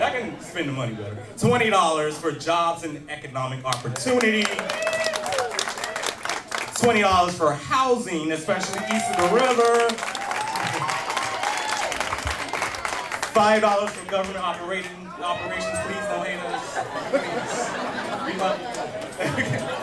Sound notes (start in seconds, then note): 3.7 applause; 8.6 cheers and applause